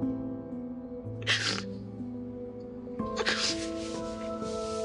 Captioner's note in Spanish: Sollozos